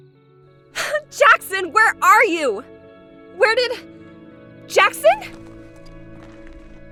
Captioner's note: frustrated grunt